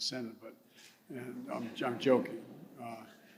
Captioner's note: laughter